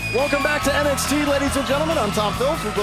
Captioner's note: crowd cheering